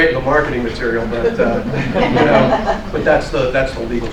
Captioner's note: laughter